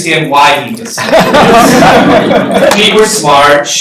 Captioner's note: laughter